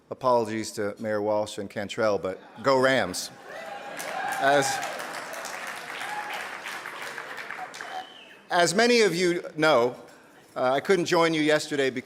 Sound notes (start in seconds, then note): 3.4 audience cheering and applauding